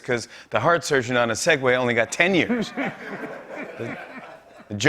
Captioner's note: laughter